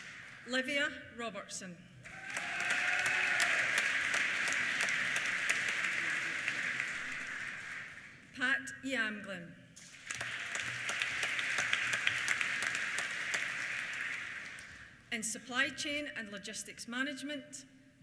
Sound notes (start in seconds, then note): 2.0 cheers; 2.0 applause; 9.8 applause